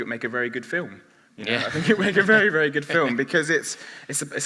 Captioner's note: laughs